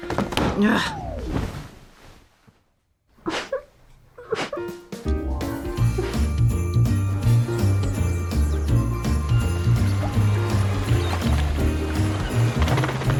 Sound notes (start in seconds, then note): 3.4 whimpering; 12.9 seagulls squawking